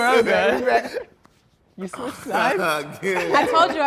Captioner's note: laughter drowns voices